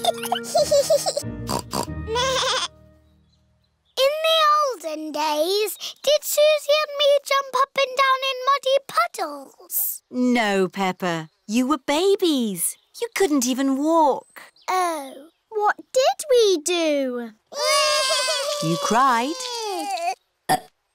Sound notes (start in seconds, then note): 0.0 both giggling; 1.4 snorts; 1.7 bleats; 17.5 both bawling